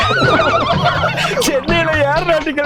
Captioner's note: laughs